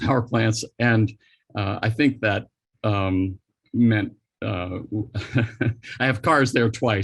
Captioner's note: chuckles